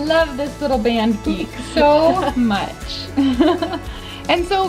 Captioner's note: laughs